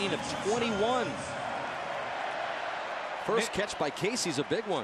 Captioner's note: pa announcement